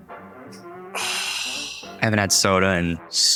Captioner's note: bottle cap popping; sighing